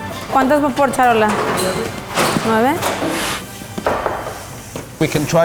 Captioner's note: speaking foreign language